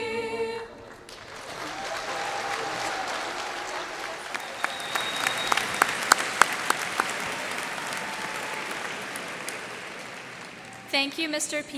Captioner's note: cheers and applause